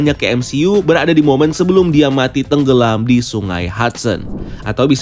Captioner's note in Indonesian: suara transisi